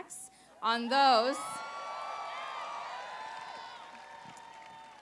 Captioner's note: applause